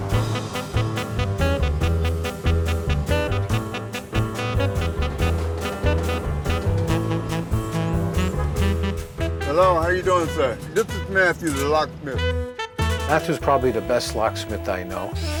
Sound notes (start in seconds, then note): 0.3 exuberant jazz music; 8.5 car horn honking